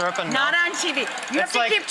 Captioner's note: laughs